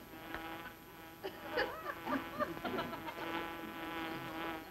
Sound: fly buzzing around; giggling audience

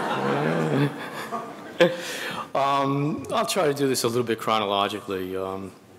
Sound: laughs; audience laughing

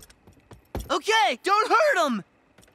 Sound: none

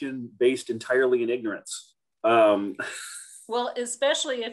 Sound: laughs

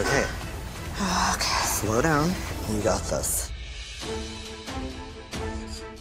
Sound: breathes deeply

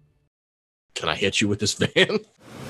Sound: chuckling

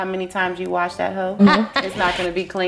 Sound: laughs

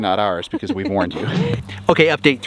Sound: laughs

